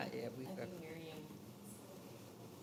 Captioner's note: speaking quietly